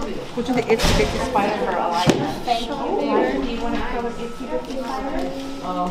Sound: overlapping chatter

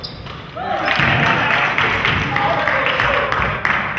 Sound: crowd claps

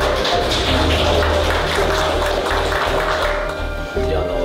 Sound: applause

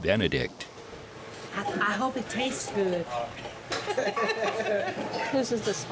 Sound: laughs

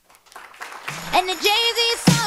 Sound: audience applauding

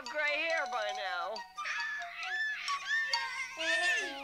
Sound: squawking

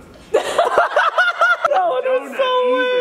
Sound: laughter

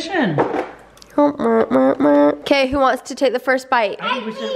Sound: humming

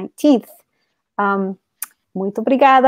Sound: speaks portuguese

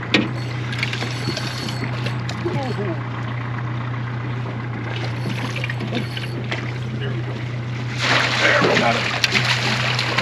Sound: boat engine idling; reel cranking; fish splashing

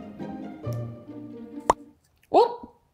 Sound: pop sound

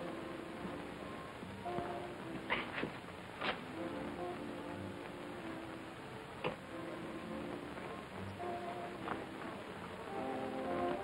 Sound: whispering

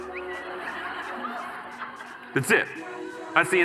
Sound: audience laughing

